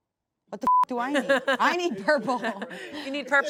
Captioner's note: beep; laughs